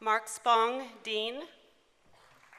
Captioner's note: applause